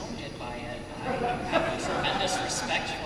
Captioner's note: laughter